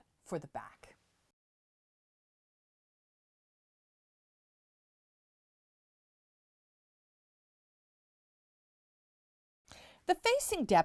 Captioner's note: no Sound Present